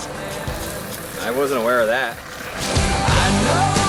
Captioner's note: skate board falls